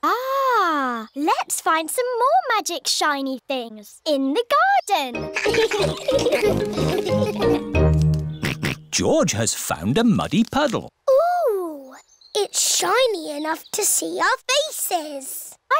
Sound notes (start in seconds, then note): 5.3 all laugh; 8.7 snorts